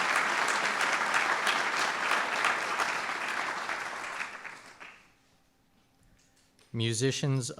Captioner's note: applause